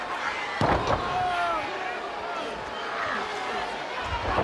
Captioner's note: body thudding